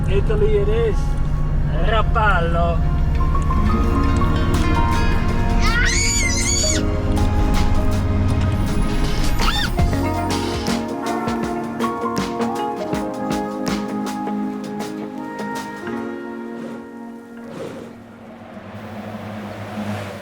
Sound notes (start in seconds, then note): 2.1 foreign language; 5.9 screaming; 9.4 upbeat music